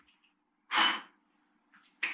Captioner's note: blows